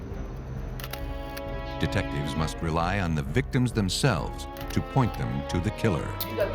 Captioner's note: click